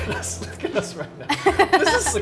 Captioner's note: chuckles; Megan laughs